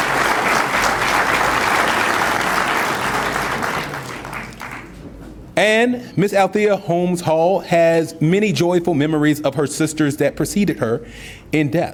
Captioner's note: applause